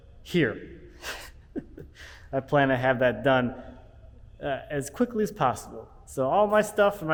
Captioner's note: laughs